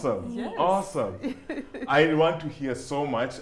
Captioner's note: laughs